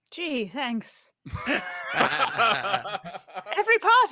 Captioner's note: laughs